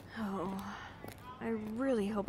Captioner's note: sighs